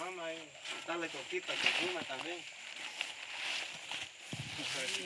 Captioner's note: people chattering